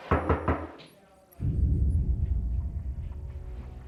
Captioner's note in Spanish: Toques en la puerta